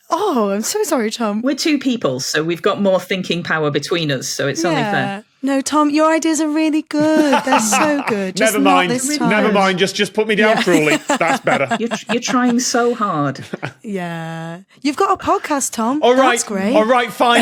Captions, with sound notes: Oh, I'm so sorry, Tom. We're two people, so we've got more thinking power between us, so it's only fair. Yeah. No, Tom, your ideas are really good. They're so good. Just not this time. Never mind. Just put me down cruelly. That's better. (laughs) You're trying so hard. (snickers) Yeah. You've got a podcast, Tom. That's great. Alright, alright, fine!